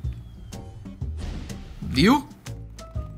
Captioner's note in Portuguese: som de explosão